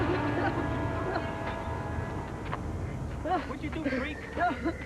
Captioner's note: sobbing